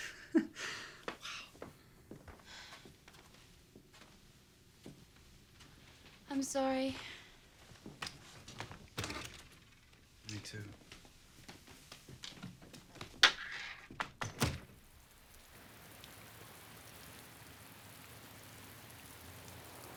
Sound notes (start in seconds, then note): 0.0 chuckles; 14.0 door closes